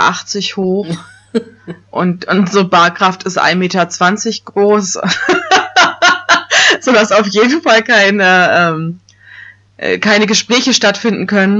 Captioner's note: laughs